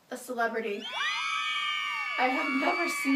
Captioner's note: SFX: women cheering and screaming